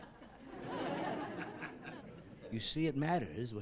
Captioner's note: laughing